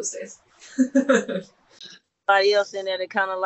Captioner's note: laughing